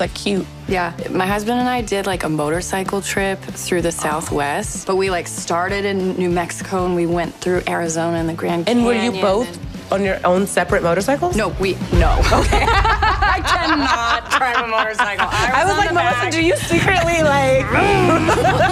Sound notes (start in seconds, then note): 12.2 laughter; 17.1 mimics motorcycle revving; 17.7 laughter